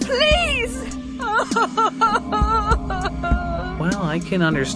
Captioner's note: crying